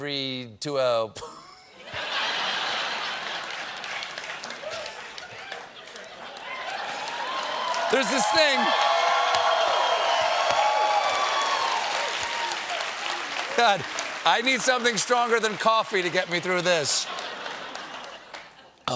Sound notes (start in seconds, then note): 4.5 laughter; 11.6 cheers and applause